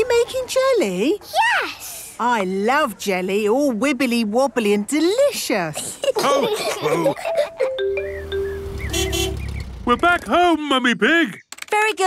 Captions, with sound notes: Are you making jelly? - Yes! - I love jelly! All wibbly-wobbly and delicious! (laughs) (horn honking) - We're back home, Mummy Pig!